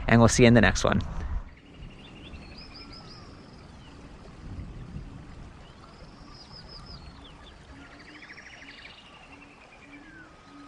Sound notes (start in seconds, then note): 1.4 birds chirping; 1.5 water babbling